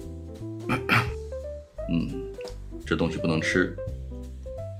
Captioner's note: ahem